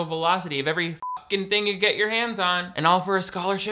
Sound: beep

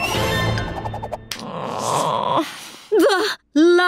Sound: groaning

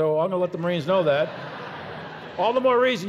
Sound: audience laughs

